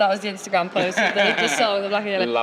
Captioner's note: laughs